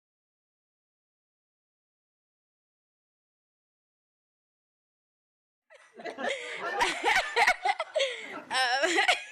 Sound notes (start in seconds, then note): 5.8 laughing